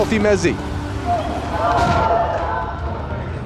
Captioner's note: crowd cheering